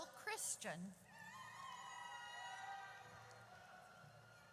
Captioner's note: audience cheers